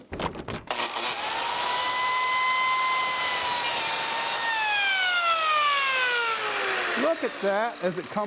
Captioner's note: cutter whirs